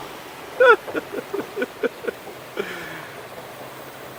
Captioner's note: laughing